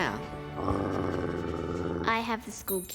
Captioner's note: growling